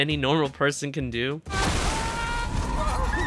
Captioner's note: explosion